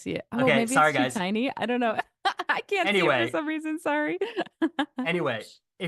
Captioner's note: laughter